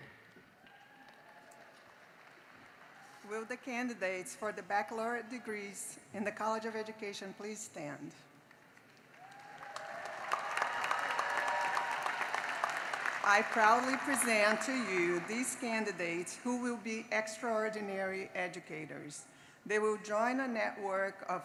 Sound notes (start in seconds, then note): 9.0 cheering and applause